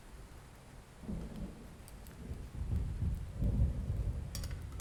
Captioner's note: thunder rolling